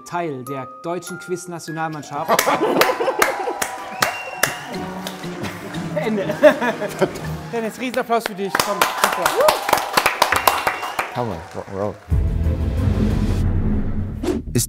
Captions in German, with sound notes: Ich bin ab heute Teil der deutschen Quiznationalmannschaft. (Jubel) (Unheilvolle Musik) Ende. (Lachen) Dennis, Riesenapplaus für dich. Komm, super. (Jubel, Applaus) Hammer, Rock 'n' Roll. (Spannungsvolle Musik)